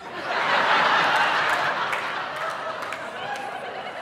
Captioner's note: audience laughing